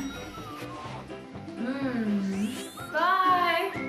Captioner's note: timer rings